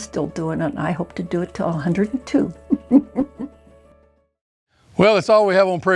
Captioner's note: chuckles